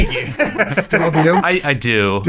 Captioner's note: laughing